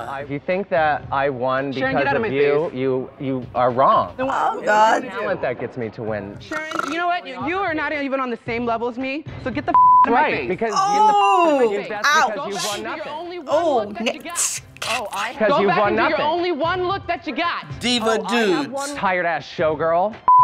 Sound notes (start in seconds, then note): 6.4 snoring